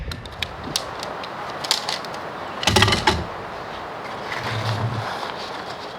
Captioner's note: camp sounds and tent poles